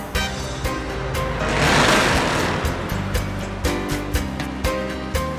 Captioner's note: engine revs